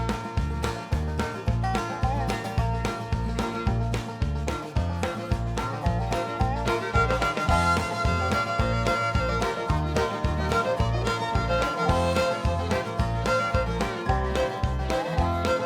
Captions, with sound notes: UH-HUH. (LAUGHING) RIGHT. (LAUGHING)